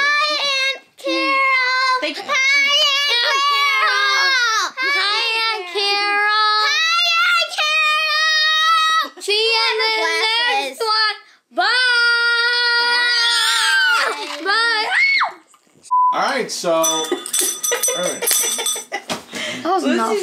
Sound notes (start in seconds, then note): 14.2 screams; 15.9 beeps; 16.8 bell rings; 17.5 laughs